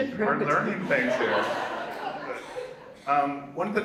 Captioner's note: audience laughs